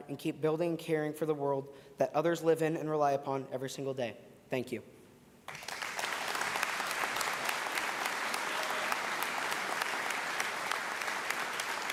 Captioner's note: applause